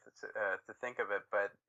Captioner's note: laughing